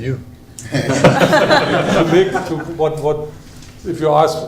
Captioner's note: laughter